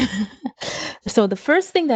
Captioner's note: chuckles